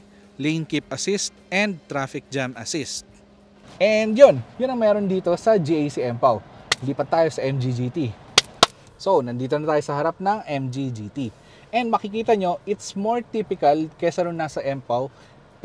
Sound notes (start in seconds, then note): 8.2 claps